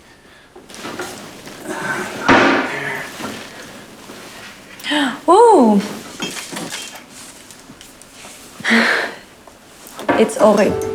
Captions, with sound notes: All righty. (drawers opening and closing) - Ooh.